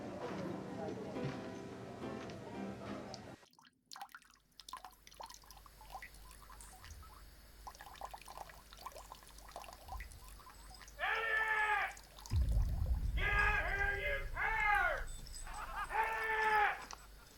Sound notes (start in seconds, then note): 4.2 water sloshing; 12.3 soft ominous music